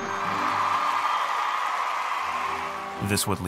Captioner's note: applause